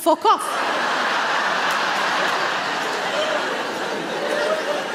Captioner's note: audience laughs